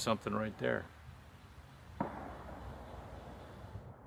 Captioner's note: distant gun shots